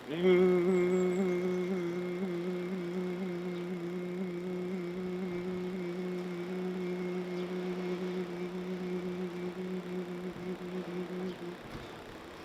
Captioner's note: humming